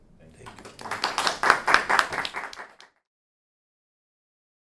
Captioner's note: audience applauds